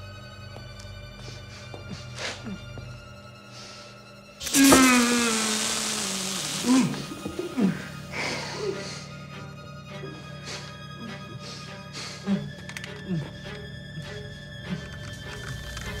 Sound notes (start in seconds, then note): 4.4 moans